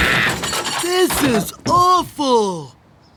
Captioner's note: Sandra screaming; crashing